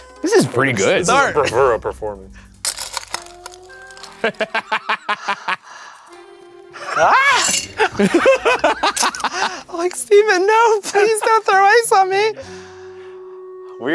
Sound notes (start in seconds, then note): 2.6 ice scooping; 4.2 laughing; 6.8 shouts; 6.8 laughing